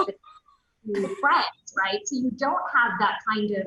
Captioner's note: loud laughs